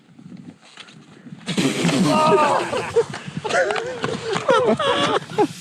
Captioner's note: laughing